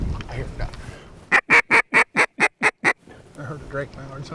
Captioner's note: duck whistle